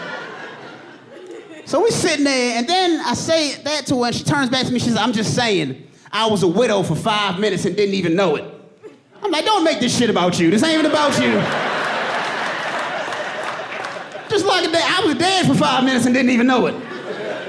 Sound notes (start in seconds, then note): 5.4 audience laughing